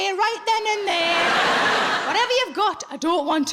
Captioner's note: audience laughing